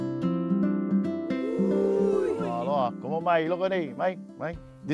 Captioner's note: speaking Hawaiian